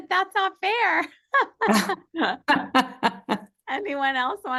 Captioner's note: laughter